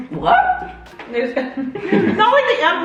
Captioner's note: giggles